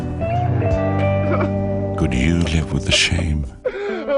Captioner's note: crying